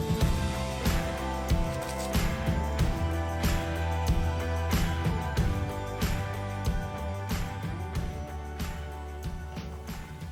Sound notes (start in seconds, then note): 1.7 paper rustling